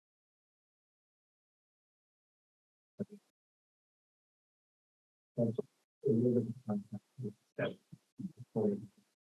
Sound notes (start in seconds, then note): 2.9 speaking faintly